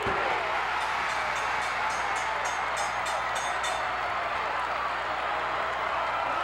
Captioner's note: cheers; bell rings